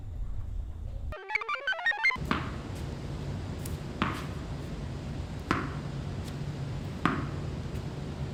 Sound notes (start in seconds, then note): 1.1 computer chirps; 2.2 ball thuds